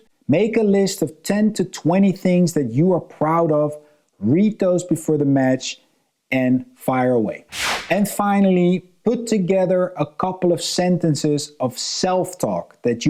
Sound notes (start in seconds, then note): 7.5 transition whooshing